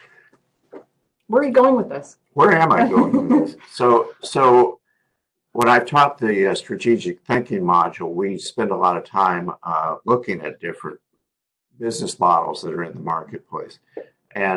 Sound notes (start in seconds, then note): 2.7 laugh